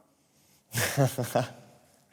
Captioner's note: laughs